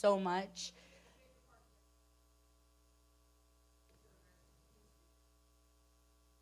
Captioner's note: person speaking away from mic